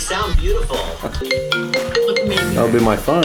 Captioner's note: phone rings